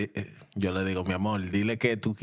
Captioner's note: speaking In Spanish